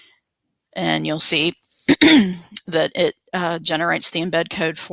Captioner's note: clears throat